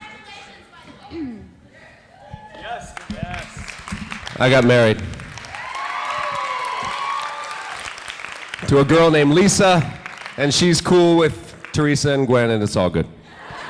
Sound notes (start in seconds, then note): 3.9 audience applauds; 5.7 audience cheering; 13.2 audience laughing